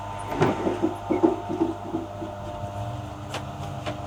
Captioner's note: wood scraping